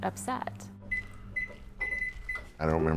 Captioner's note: microwave beeping